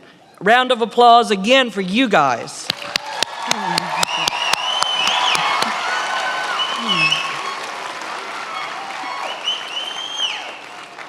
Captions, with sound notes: A round of applause again for you guys. (attendees applauding)